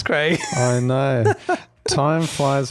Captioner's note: laughs